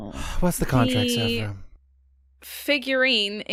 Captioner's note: resonant chiming begins